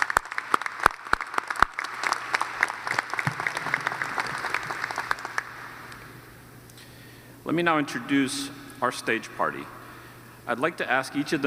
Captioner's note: applause